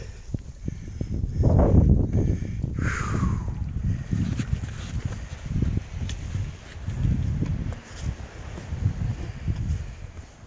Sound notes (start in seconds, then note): 2.7 sighing